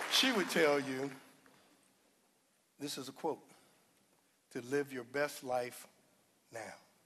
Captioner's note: applause